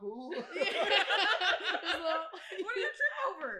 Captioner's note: laugher